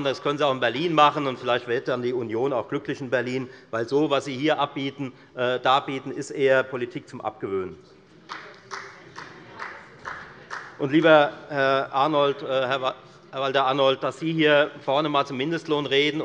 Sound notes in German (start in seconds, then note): 8.2 Beifall bei der FDP